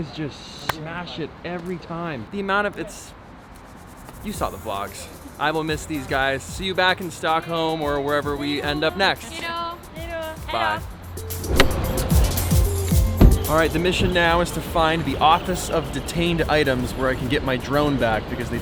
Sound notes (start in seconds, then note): 9.3 crowd; 11.7 pop music